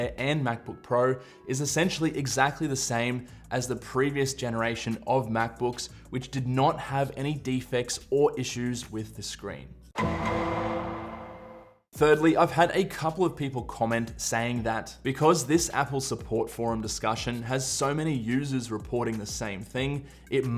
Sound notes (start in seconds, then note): 9.9 dramatic sound